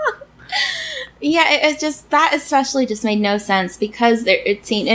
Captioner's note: laughs